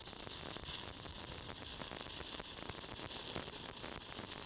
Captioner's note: sparking